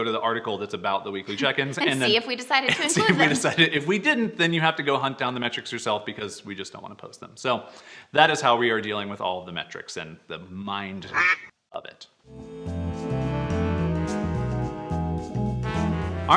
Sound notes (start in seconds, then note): 11.0 duck quack; 12.3 light music